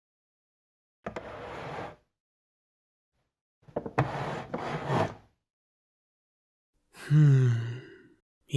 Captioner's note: sound of placing a ladder on bookshelves